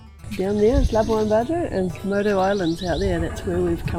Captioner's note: bird twittering